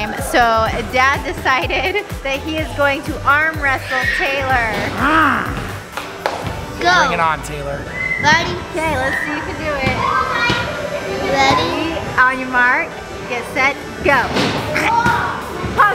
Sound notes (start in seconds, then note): 4.9 dad growling